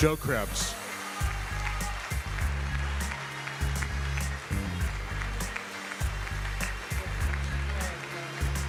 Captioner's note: applause